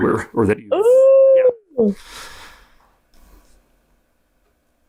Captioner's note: exclaims